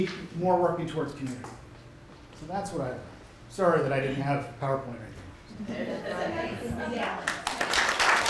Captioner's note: applause